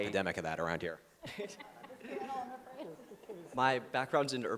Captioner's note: group laughing